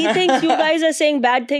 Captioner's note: child laughing